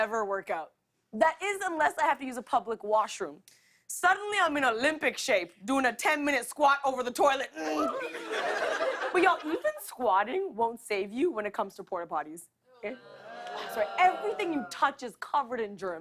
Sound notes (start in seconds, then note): 7.4 grunts; 12.8 audience groans